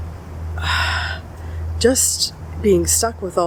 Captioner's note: exhale